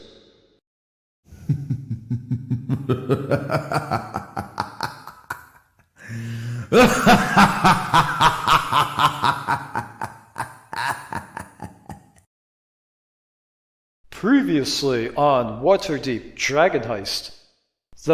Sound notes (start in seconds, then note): 1.3 hah, hah, hah